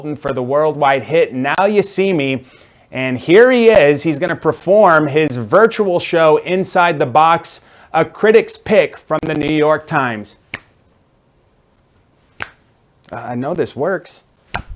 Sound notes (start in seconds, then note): 10.5 finger tapping